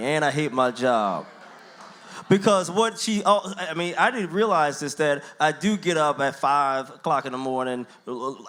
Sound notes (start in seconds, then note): 0.7 audience murmurs